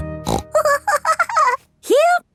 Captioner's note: snorts and giggles